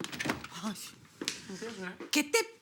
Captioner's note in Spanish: Ruido al abrir la puerta